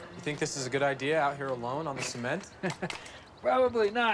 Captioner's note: Mark chuckles